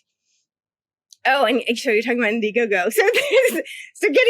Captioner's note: laughs